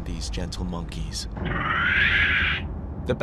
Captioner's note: screeches